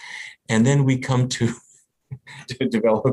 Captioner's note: laughs